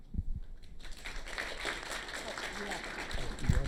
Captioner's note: applause